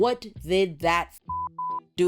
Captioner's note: beep